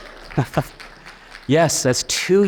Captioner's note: audience clapping